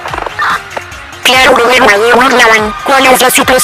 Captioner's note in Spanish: radio